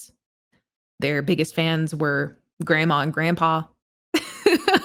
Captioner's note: laughs